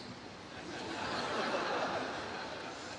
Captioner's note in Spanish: Risas